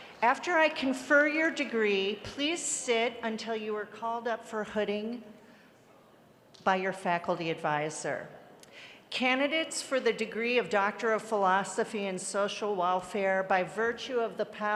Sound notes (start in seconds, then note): none